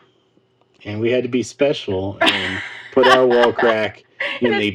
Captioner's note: laughing